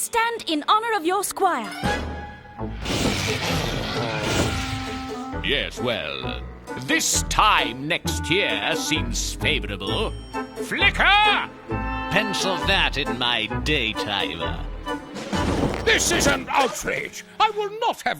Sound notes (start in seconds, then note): 2.7 grunting